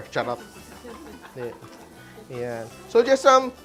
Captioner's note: laughs